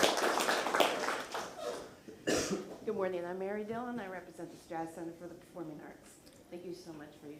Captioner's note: applause